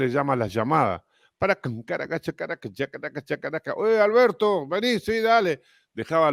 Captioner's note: Tararea